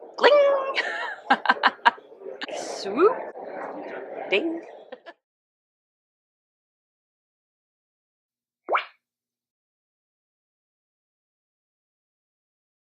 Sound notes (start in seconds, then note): 0.6 laughs